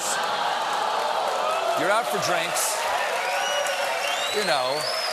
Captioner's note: audience reacts; cheers and applause